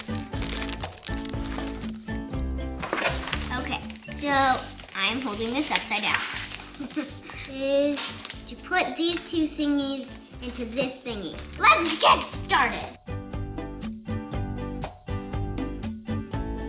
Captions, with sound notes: - Okay. So, I'm holding this upside down. (chuckles) - To put these two thingies into this thingy. Let's get started. (upbeat acoustic music)